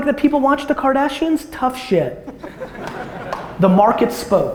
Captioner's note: audience laughter